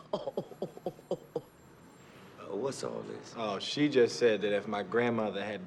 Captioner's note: chuckling